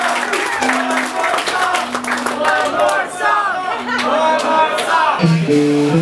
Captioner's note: applause; chanting "One more song!"